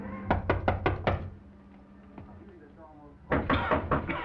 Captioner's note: knocking; coughing